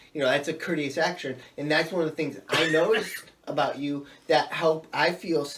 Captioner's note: coughs